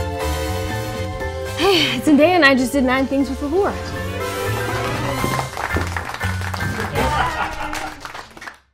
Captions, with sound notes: [sighing] I'm Zendaya, and I just did nine things with Allure. [clapping] [cheering]